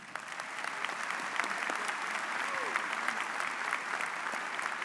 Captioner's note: audience applauds